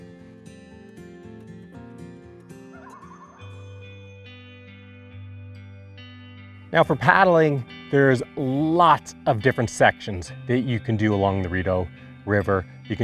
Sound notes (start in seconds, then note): 0.2 calm instrumental music; 2.7 loon cooing; 4.0 calm instrumental music